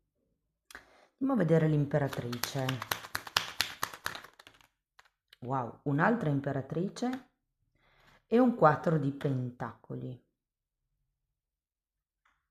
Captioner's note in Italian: Applauso